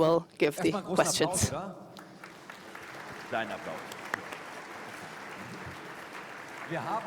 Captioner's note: applause